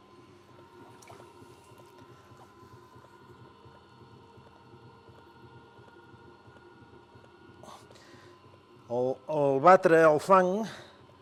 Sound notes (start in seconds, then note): 0.7 sound of the potter wetting his fingers in the water